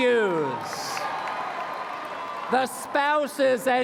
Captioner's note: applause